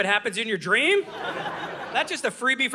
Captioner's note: audience laughing